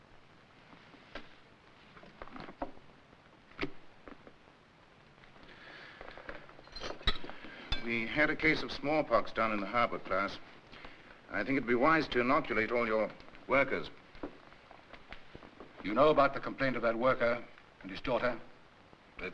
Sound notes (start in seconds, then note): 6.7 dishes clattering